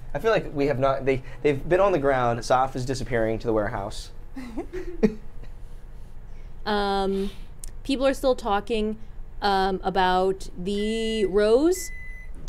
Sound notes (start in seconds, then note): 4.3 chuckles; 4.4 laughs; 11.0 microwave beeps